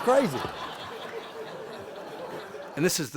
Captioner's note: laughter